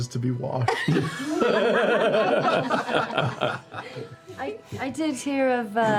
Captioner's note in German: Gelächter